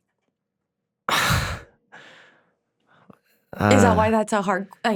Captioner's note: Drake exhales